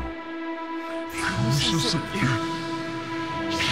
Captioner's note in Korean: 뒤틀린 목소리